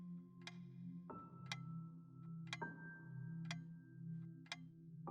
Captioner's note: ticking